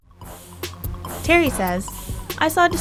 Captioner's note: voiceover